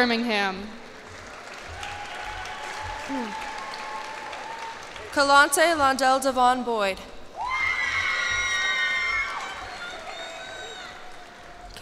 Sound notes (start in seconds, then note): 0.9 cheers and applause; 7.3 cheers and applause